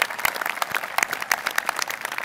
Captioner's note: applause